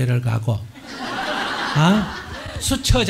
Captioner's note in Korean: 청중 웃음